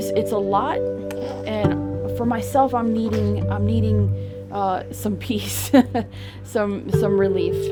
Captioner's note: laughs